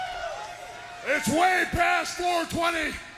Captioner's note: crowd cheering